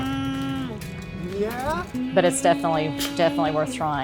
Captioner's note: groans as his father pushes him up the ramp